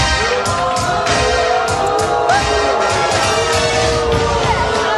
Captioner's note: audience booing; upbeat music